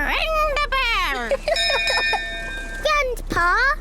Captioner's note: laughs; rings bell